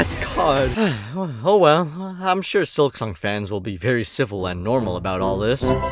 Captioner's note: sigh